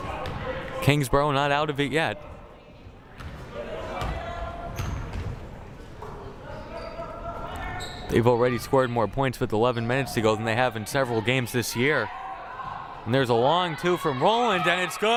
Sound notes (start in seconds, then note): 3.6 crowd murmuring